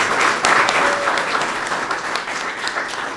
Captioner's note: applause